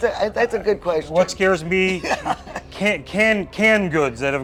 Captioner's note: laughing